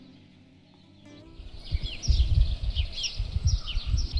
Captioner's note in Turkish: Kuş Cıvıltıları ve Rüzgar